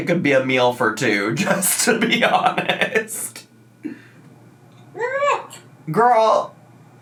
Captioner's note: laughs